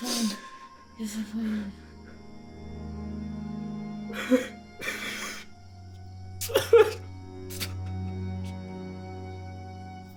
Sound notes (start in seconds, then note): 3.2 Alan crying; 3.2 somber music